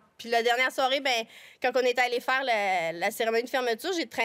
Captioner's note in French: none